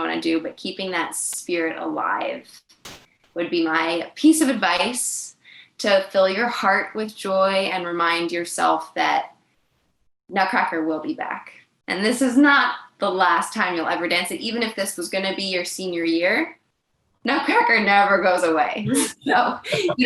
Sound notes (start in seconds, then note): 18.8 laughing